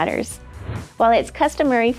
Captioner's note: air whooshing